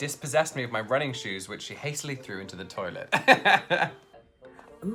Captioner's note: laughs